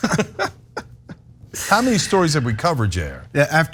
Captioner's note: laugh